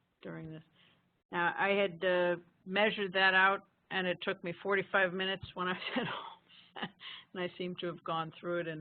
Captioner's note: laughing